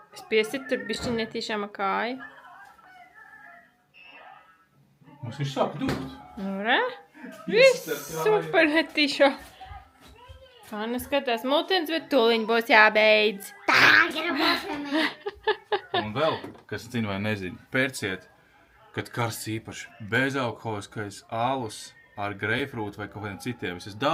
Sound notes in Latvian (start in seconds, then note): 14.3 smiekli